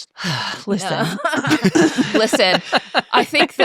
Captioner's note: groans